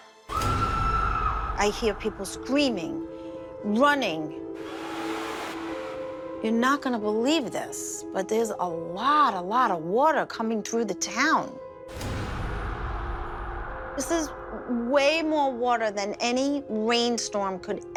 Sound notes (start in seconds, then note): 0.3 screaming; 4.6 water rushing, screaming